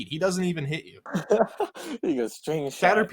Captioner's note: laughs